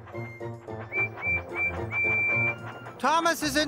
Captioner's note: peep-Peep-Peep-Peep!